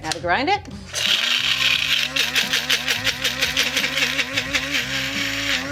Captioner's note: grinder whirring